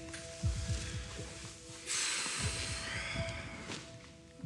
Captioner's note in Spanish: cristóbal exhala